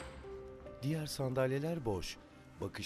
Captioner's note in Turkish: Kapı açılma sesi; Ayak sesi